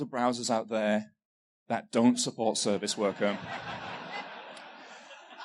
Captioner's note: laughter